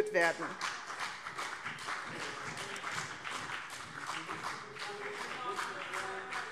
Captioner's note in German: Beifall BÜNDNIS 90/DIE GRÜNEN und vereinzelt CDU